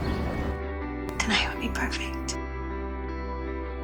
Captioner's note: voiceover